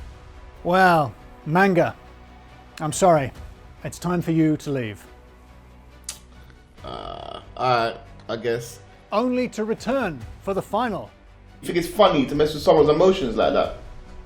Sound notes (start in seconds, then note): 6.0 clicks tongue